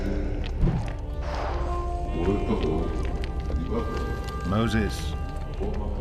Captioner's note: speaking in Hebrew